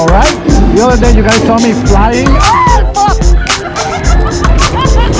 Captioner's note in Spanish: gritos; risas